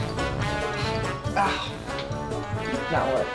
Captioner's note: panting